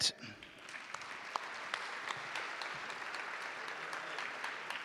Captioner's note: audience applauding